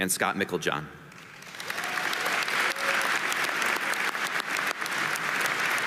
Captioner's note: audience applauding